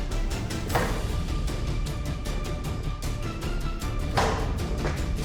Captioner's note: knife slams